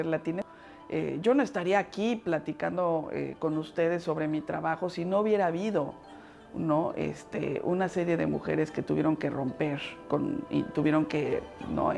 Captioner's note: speaking Spanish